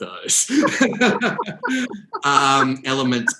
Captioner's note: both laugh